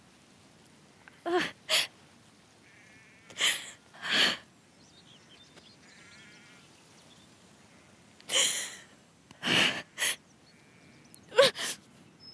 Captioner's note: blodeuwedd weeps